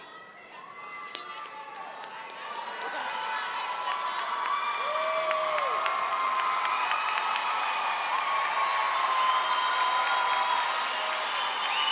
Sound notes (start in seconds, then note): 1.8 audience clapping and screaming